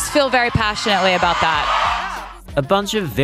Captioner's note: cheering